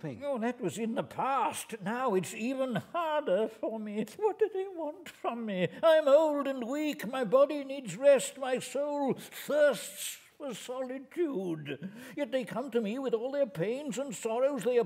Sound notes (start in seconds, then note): 4.2 trembling voice